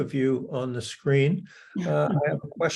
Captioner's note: laughs